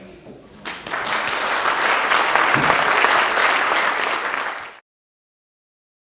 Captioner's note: applause